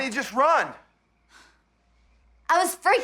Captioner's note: sighs